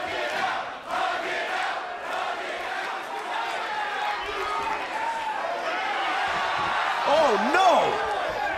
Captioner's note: crowd cheering